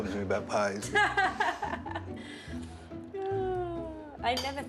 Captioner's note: April laughs